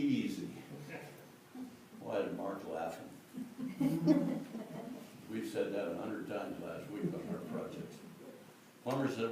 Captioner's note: laughter